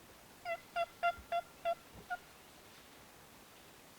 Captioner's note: turkey calling